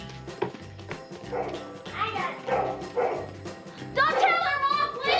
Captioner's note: barking